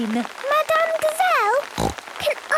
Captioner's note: snorting